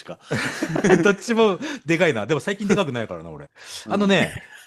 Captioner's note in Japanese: 笑い